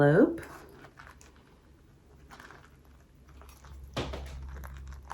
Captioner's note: cantaloupe seeds squishing